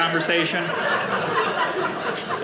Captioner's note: audience laughing